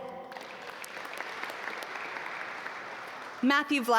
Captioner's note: audience applaud